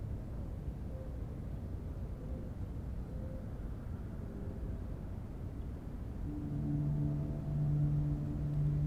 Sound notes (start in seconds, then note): 0.9 bird cooing; 4.3 train whistle blowing; 6.2 soft dramatic music